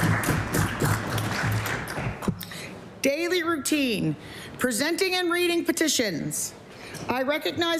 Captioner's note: applause